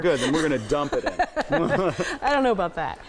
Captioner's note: laughing